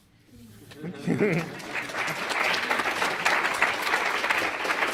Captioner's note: applause